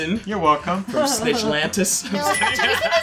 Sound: ding

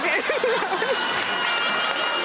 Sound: laughter

